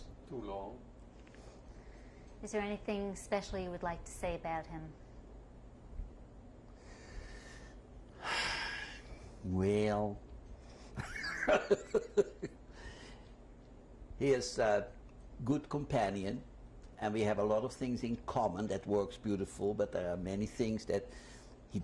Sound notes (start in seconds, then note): 8.2 sighs; 11.0 laughs